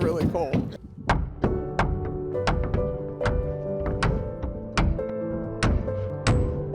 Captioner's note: hammers banging; peaceful music